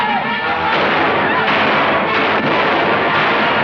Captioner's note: gunshots